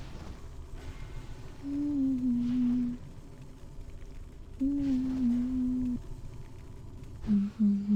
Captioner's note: humming